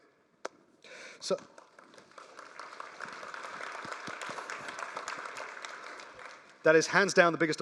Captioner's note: applause